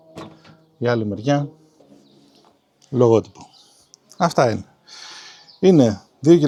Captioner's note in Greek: αναστενάζει